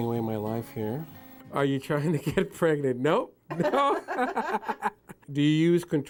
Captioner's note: laughs